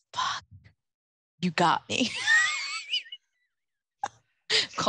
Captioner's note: laughs